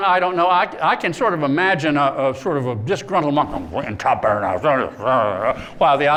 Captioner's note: speaking latin